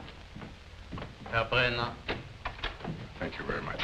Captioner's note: non-english speech